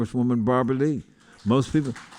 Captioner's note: applause